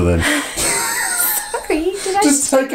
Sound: both laugh

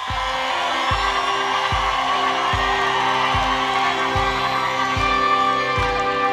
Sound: audience cheering

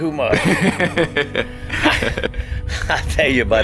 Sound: laughing

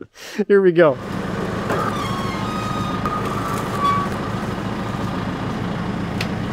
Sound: chuckles; telehandler engine humming

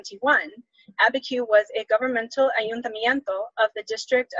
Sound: speaks Spanish

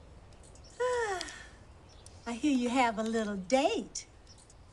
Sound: sighs

